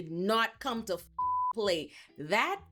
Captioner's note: beep